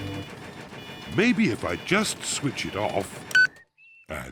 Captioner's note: sighs